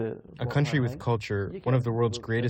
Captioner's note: through translator